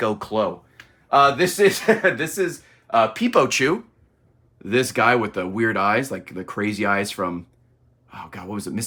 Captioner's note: laughs